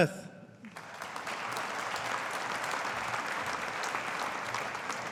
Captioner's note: audience applauding